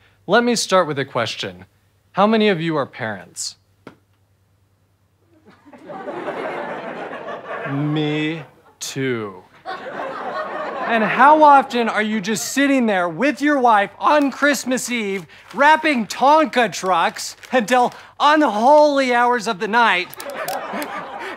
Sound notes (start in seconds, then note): 5.4 audience laughter